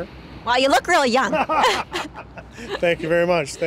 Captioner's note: laughter